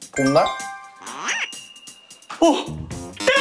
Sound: breathing in and out

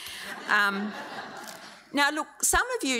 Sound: audience laughs

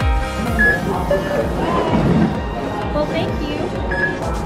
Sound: ticket scanning

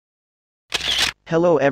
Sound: camera Shutters

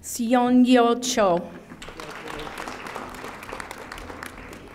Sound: audience applauding

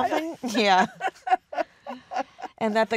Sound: laughs

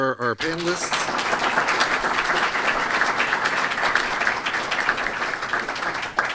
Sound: applause

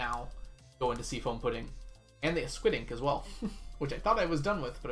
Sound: chuckles

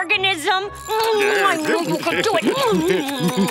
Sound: smooching

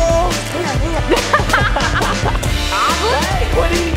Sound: laughing

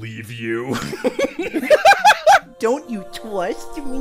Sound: laughter

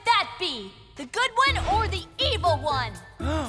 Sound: gasps and grunts

